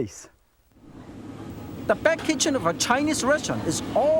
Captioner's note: fire blazing